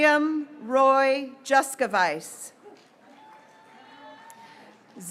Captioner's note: graduates cheering